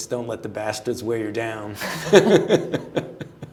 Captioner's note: laughter